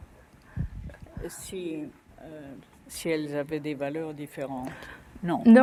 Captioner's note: speaking french